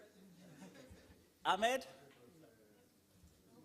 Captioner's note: laughter